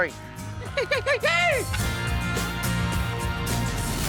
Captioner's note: yelling